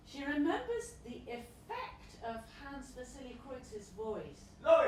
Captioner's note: Voice shouts: Loic!